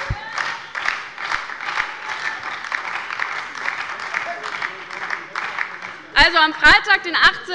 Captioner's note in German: Beifall bei der LINKEN, der SPD und der FDP